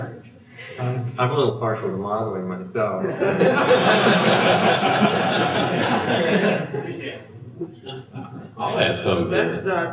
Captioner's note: laughter